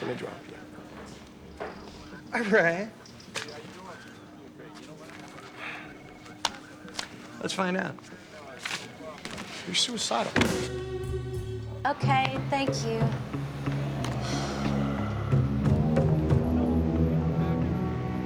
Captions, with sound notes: I guarantee you, she's gonna drop you. All right. Let's find out. You're suicidal. Okay, thank you. (sighs)